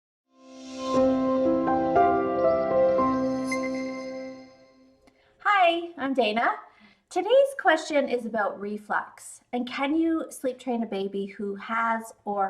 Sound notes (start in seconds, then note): 0.4 tranquil music; 0.7 text chiming